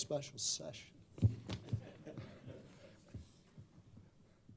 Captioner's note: laughter